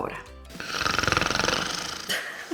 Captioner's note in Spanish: ronquidos